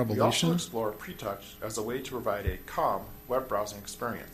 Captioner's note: voiceover